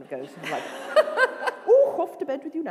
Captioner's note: laughter